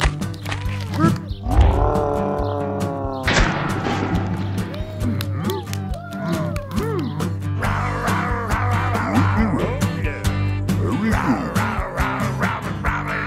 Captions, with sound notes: [CRASH!] Dinosaur Songs - very good